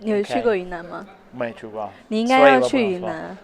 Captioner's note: in Mandarin